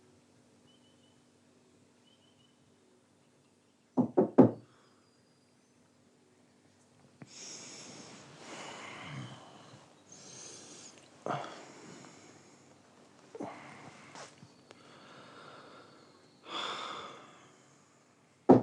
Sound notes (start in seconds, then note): 4.0 loud knocking; 8.4 groans; 16.4 sighs